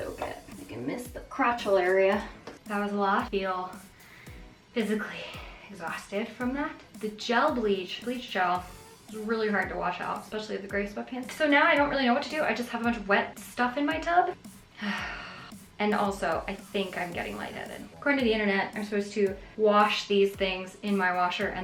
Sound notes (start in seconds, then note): 14.8 sighing